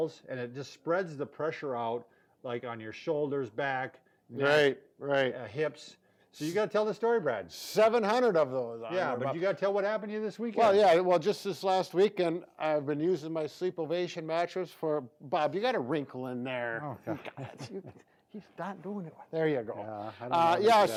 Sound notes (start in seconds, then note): 17.1 both laugh